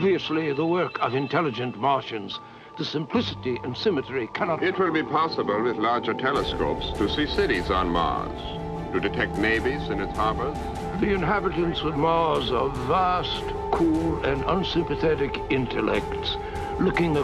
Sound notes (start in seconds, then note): 5.1 male Voice; 12.1 male Voice